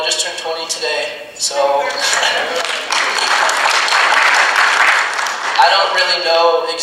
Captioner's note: audience applauding